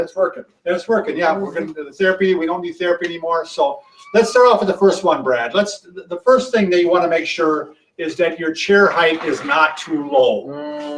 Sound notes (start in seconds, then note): 4.1 laughs